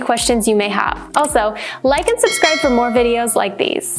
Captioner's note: bell dings